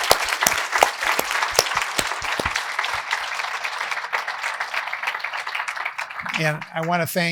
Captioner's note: applause